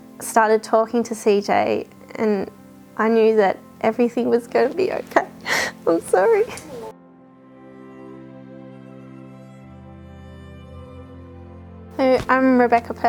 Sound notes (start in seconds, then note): 9.9 cries